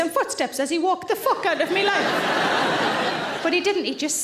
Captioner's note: audience laughing loudly